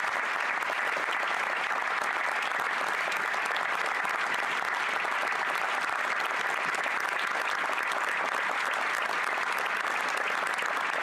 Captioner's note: applause